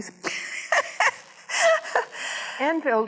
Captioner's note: laughs